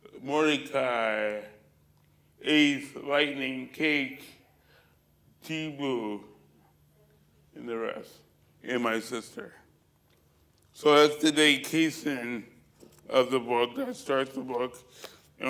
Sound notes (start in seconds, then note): none